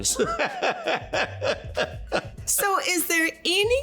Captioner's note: laughing